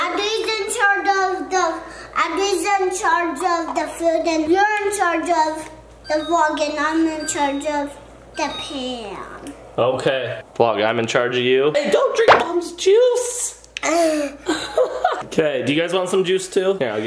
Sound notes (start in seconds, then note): 14.4 laughs